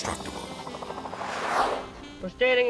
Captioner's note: gentle jazz music; transition whips